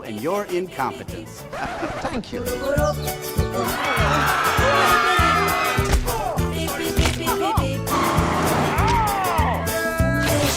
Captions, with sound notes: and your incompetence. (record scratching) - Thank you. (singing in Persian) (crowd screaming) (bag smacking) - Oh! (flesh crunching) - Oh! (car engine roaring) - Ow!